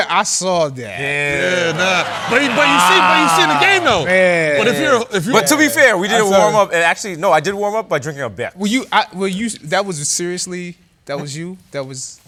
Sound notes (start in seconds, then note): 1.4 laughter